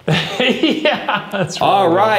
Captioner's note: laughs